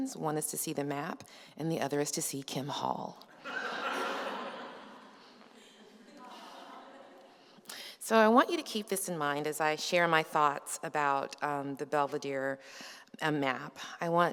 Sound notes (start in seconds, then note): 3.3 laughter